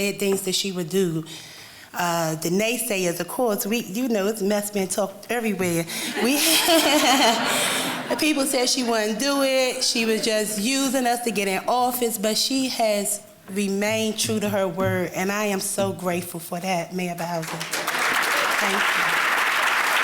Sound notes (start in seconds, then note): 17.4 applause